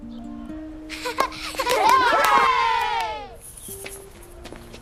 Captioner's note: cheer